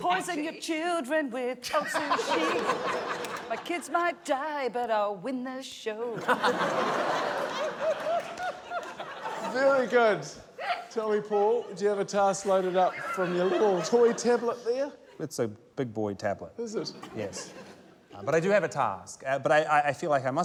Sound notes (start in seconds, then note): 6.1 laughter